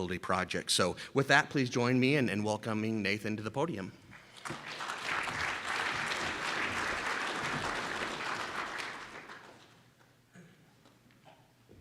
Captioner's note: round of applause from audience